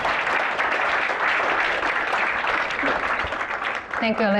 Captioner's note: applause